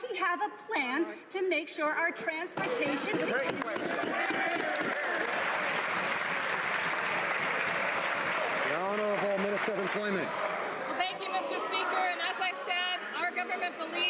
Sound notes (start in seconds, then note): 9.2 some Applause